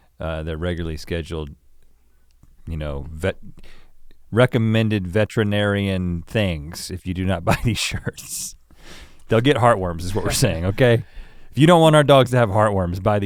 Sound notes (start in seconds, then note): 7.4 chuckles